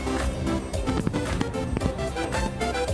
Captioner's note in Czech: bouchání ohňostrojů; veselá hudba